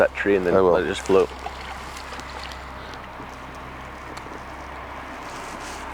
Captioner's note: sonar ball splashing